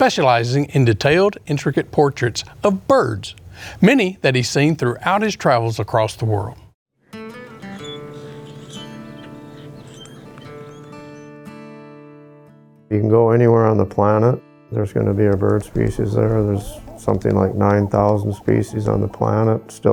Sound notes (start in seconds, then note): 7.2 soft country music; 7.4 birds chirping